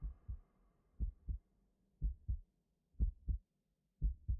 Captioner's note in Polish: odgłos bicia serca